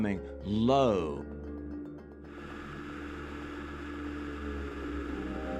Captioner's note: airplane engine whirring